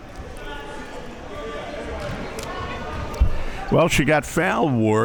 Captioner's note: spectators chattering